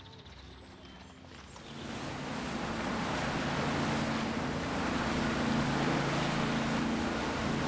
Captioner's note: waves lapping